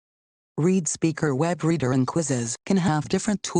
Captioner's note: female Computer Voice